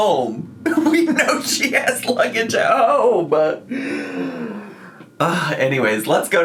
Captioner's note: laughs